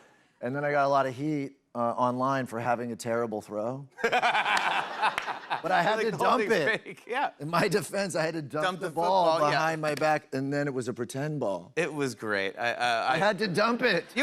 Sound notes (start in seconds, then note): 4.0 laughs